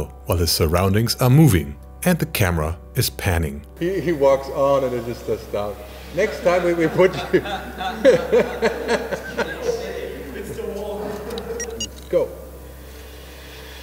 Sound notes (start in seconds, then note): 6.7 laughter; 11.2 camera beeps